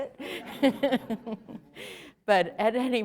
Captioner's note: laughter